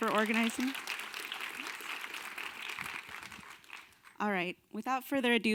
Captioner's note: audience applause